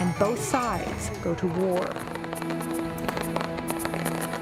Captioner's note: fireworks crackling